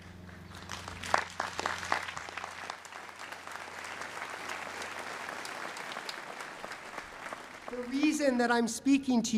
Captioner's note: applause